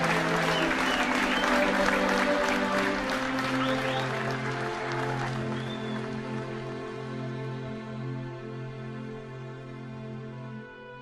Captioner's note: applause